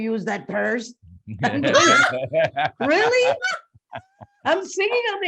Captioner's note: laughing